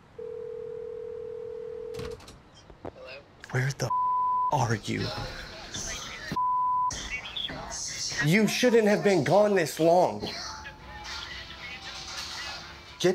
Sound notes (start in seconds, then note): 3.9 beep; 6.4 beep